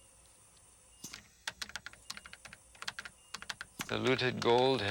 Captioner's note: keys clicking